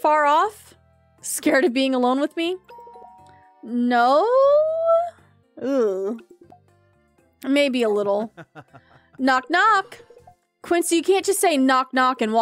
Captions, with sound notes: [Doorbell Rings] Eugh. [Quincy Laughs] Knock, knock.